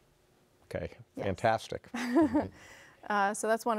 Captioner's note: chuckles